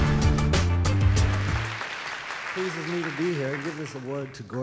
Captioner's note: audience applause